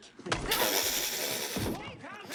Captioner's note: blows raspberries